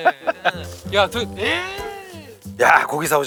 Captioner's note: exclaiming as he comes in